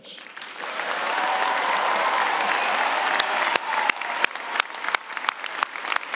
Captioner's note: cheers and applause